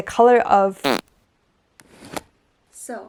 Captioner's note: fart sounds